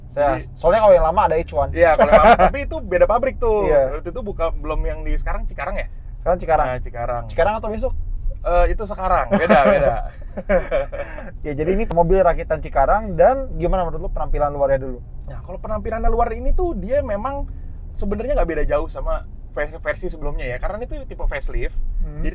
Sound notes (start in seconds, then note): 9.2 laughing